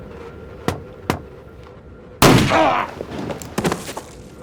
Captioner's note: groans